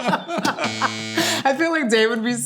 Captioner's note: both laughing; buzzer buzzing